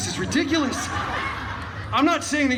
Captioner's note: guests laughing